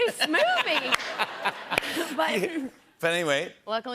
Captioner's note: laughter